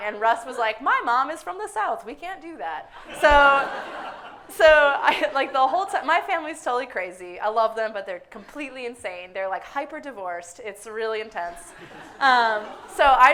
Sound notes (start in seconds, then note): 3.0 audience laughs hysterically; 11.7 audience laughing